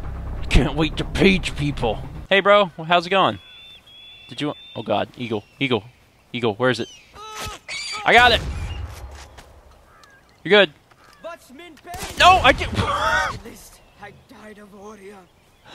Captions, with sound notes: Can't wait to page people! Hey bro Hows it goin? Did you-*Eagle screech* Oh God eagle Eagle Eagle, where is it? I got it! You're good No! I didn't-